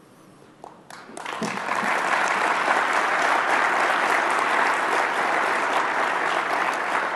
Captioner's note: applause